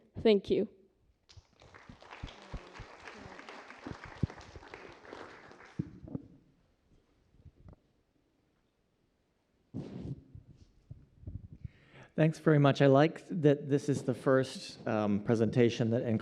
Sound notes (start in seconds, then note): 1.2 applause